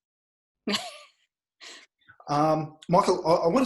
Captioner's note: chuckles